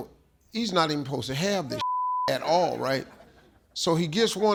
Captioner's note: beep